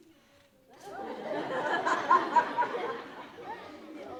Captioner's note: audience laughing